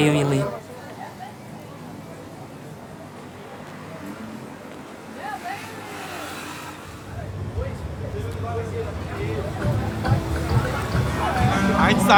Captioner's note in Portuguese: barulho de carros